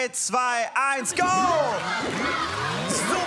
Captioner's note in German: Anfeuernde Rufe